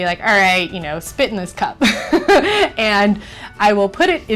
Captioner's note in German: lacht